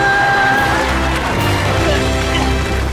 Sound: cheering

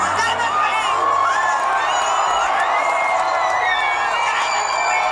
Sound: crowd cheering

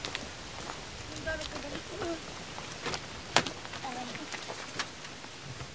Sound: indistinct chatter

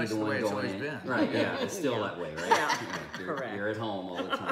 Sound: laughing

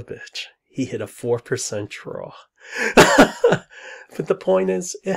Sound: laughs

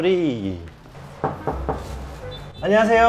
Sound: knock, knock

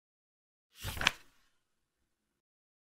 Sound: page flip sound

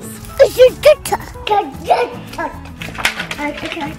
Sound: baby mumbles

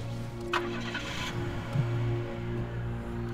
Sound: car engine starts

